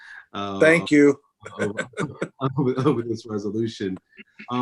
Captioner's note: laughs